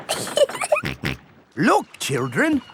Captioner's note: giggling; snorts